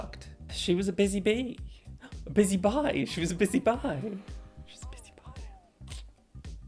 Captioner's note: gasp